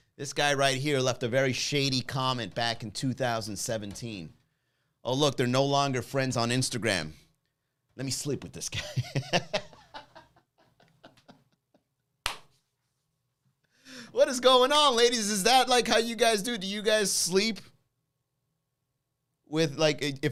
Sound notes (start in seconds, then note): 8.7 laughs; 9.1 claps